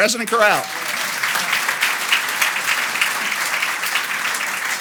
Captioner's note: audience applauds